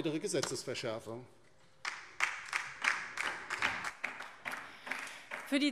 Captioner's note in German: Beifall DIE LINKE